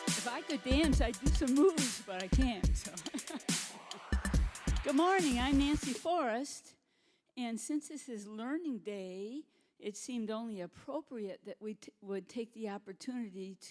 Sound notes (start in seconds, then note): 2.6 chuckling